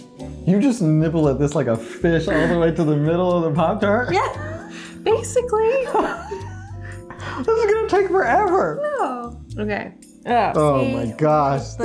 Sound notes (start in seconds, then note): 5.9 laughing